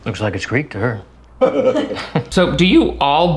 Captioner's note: dinner guests chuckling